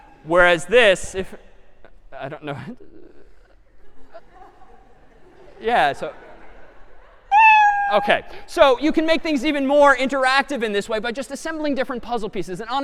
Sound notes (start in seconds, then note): 3.8 laughter; 7.3 meow